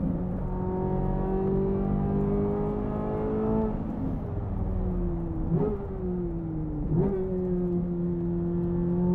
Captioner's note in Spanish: Sonido del motor